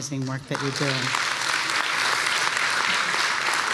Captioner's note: applause